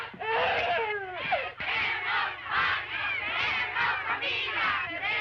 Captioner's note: chanting continues